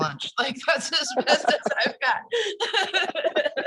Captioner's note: both laugh